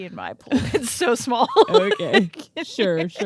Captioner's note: laughing